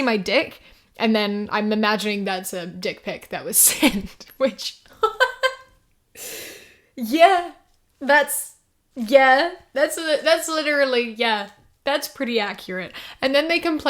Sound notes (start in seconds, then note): 5.0 laughs